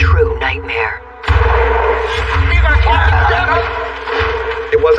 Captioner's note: shots firing